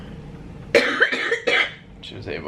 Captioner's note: coughing